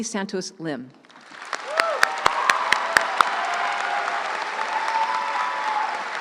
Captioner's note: crowd cheering and applauding